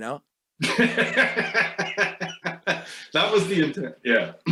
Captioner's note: laughs